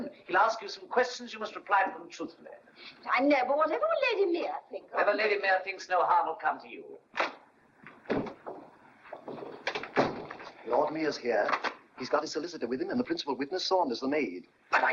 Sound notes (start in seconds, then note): 7.9 door opens; 9.1 door closes